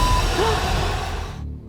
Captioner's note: gasping